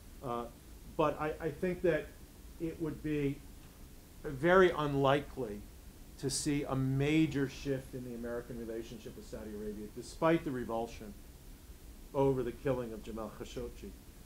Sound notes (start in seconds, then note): none